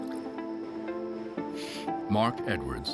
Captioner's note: blowing